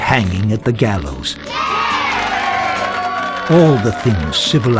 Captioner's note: children cheer